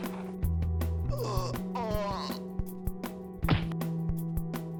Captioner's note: groans; thumps